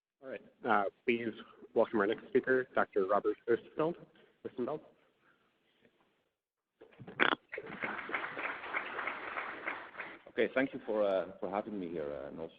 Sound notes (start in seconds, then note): 7.5 audience applauds